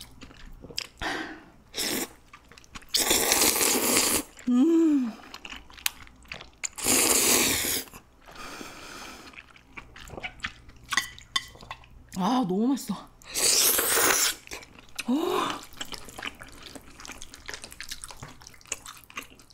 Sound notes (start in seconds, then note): 0.7 slurping💕